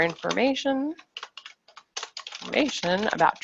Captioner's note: keyboard keys clacking